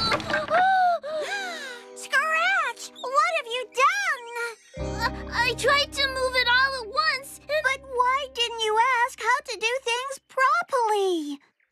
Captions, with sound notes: OHHH! ( Gasps ) SCRATCH! WHAT'VE YOU DONE? I-I TRIED TO MOVE IT ALL AT ONCE AND-- BUT WHY DIDN'T YOU ASK HOW TO DO THINGS PROPERLY?